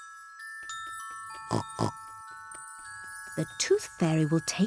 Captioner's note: oinks